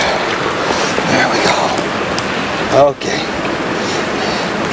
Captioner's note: water splashing